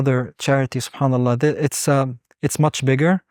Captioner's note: speaking Arabic